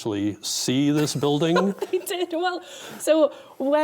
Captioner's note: laughing